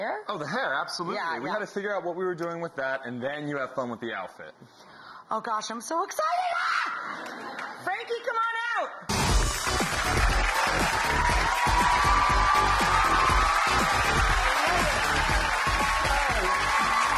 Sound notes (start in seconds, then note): 7.0 shrieks; 9.1 upbeat music; 12.5 audience cheers